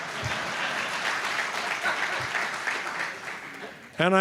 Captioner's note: applause